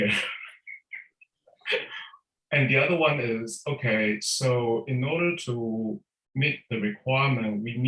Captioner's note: laughs